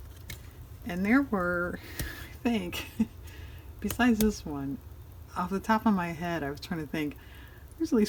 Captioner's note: laughs